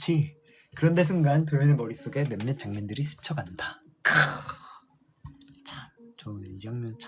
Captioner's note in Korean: 목을 가다듬음